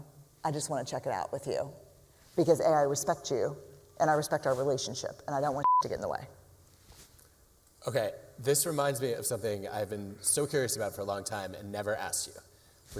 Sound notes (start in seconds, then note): none